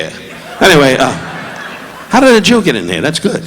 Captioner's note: audience laughing